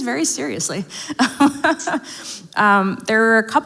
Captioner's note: laughs